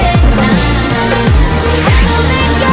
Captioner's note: Underdog brakes hard